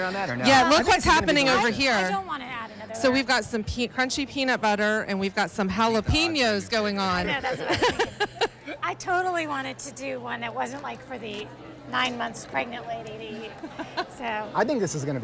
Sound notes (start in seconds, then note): 7.3 laughs